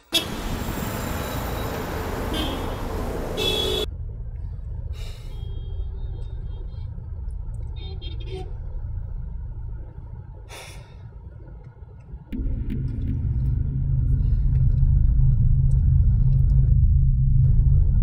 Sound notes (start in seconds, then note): 0.5 traffic